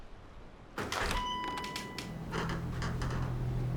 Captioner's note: door bell dinging; ominous music